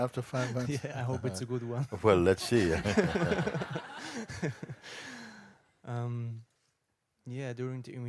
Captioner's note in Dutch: gelach